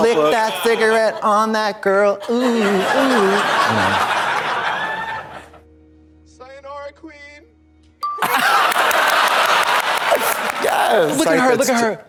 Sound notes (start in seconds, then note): 3.4 audience laughs; 8.0 pause chime dings; 8.2 audience laughs